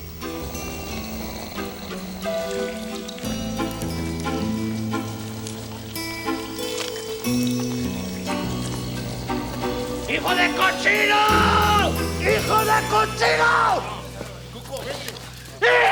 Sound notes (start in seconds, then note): 0.1 gang member snores; 8.4 gang member snores; 10.0 Bruto yells in Spanish; 15.7 Bruto yells in Spanish